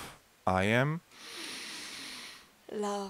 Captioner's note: exhale sound; inhale sound